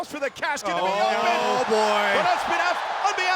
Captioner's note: audience cheers